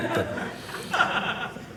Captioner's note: audience laughing